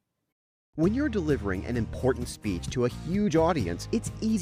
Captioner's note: voice-over